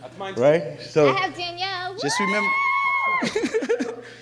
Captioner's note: cheers; laughs